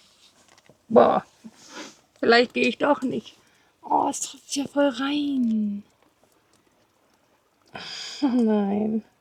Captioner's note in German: schnauben